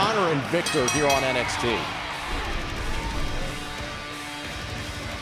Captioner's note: bell ringing